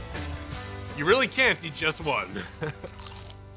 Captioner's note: chuckles